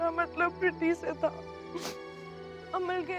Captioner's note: Bano sniffs